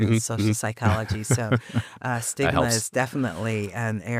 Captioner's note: chuckles